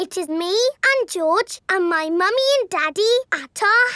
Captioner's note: none